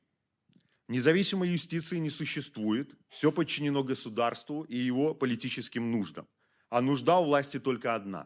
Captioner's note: speaking Belarusian